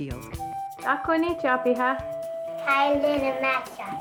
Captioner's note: speaking Lakota throughout